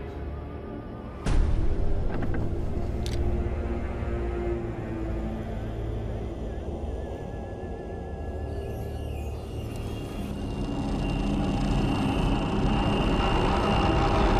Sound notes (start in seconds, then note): 1.5 door clicking; 3.0 soft tense orchestral music; 10.5 gentle ominous music